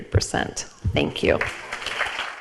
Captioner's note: audience applauds